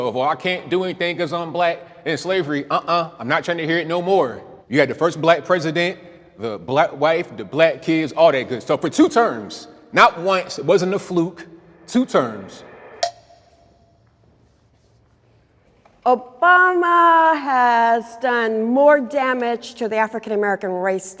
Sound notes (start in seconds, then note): 13.3 beeps